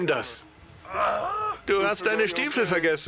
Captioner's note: William yells; laughs